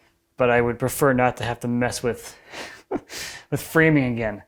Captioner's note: laughs